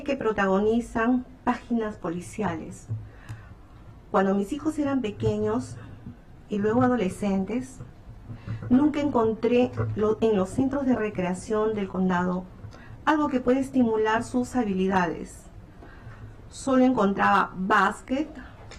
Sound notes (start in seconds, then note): 4.1 speaking spanish